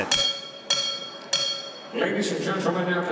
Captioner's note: bell ringing